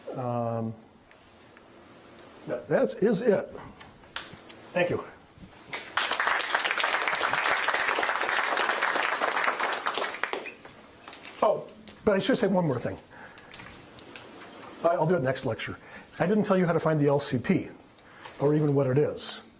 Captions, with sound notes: No. That is it. Thank you. (applause) Oh, but I should say one more thing. Uh, I'll do it next lecture. I didn't tell you how to find the LCP or even what it is.